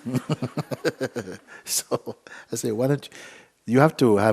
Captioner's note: laughter